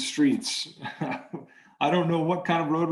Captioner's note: chuckling